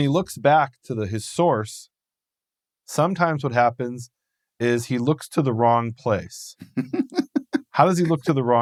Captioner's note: laughing